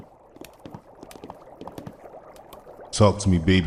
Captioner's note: water bubbles